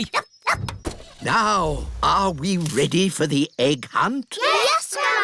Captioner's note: barks; car engine starts